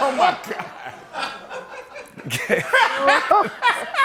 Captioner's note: laughter